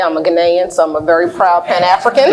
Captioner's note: laughs